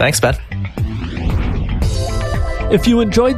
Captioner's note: whooshing